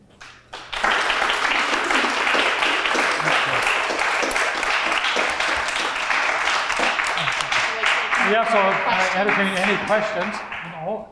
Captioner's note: applause